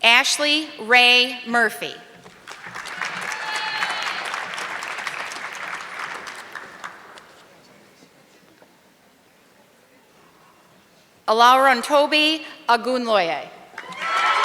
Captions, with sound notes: Ashley Ray Murphy. (audience clapping) Alarantobi Agunlaye.